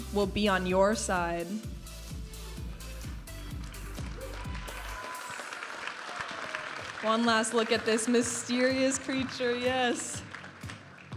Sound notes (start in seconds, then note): 3.6 audience applauding and cheering